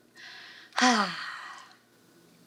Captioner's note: sighs